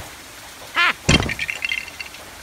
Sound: Steps on LEGO

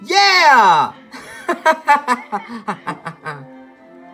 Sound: Link laughing

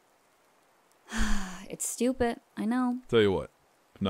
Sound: sighs

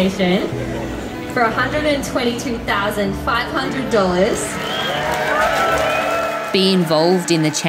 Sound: crowd applauding

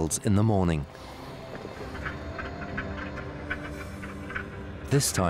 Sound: whales clicking

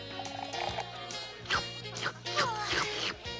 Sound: slurping

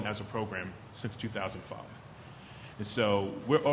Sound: none

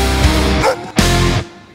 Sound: oink

